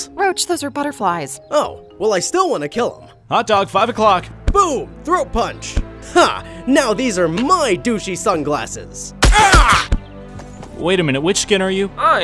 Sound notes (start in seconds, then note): 5.6 body thuds; 9.2 gun firing